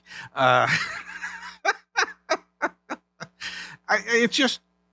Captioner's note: laughing